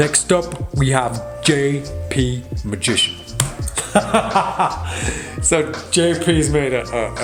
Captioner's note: laughs